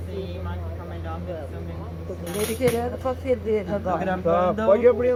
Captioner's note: people talking